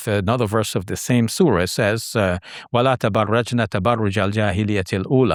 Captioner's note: speaks Arabic